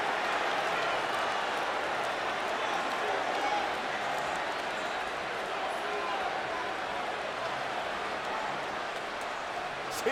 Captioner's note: applause